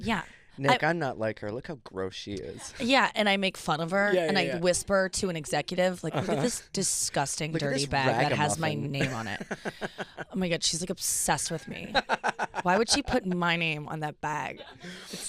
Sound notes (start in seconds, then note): 7.9 laughing